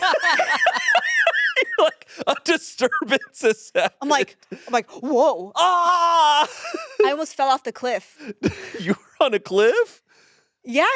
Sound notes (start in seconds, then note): 0.0 all laughing; 5.5 screaming